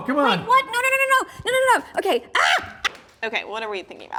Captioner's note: yells